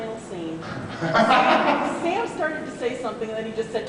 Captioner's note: laughs